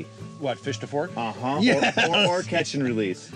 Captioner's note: laughing